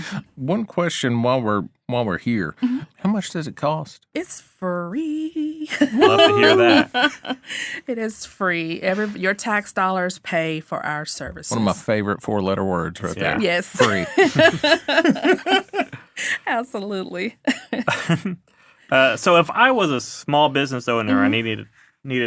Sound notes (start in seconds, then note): 5.7 laughing; 13.7 all laughing; 17.4 laughing